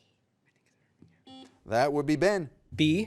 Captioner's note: buzzer beeps